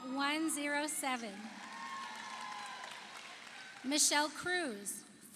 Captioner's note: audience cheers; audience applauds